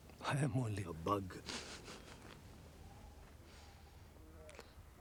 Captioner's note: laughing